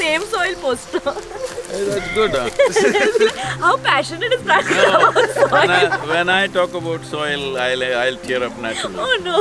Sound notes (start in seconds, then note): 0.9 laughs; 4.2 laughter; 8.7 laughs